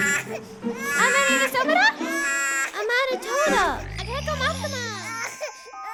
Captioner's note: Miriam speaks gibberish